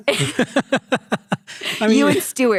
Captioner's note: both laughing